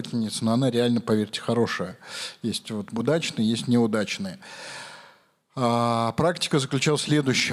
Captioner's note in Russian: тяжело вздыхает